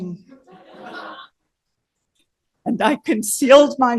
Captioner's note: laughter